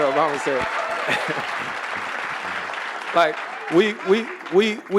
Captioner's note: audience applauding